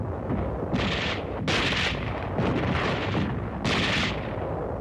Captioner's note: guns firing